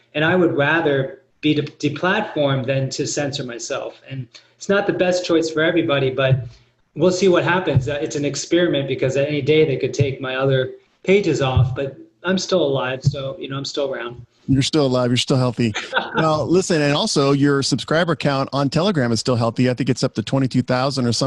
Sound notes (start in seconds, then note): 15.6 laughs